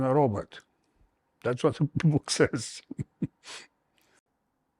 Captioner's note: laughs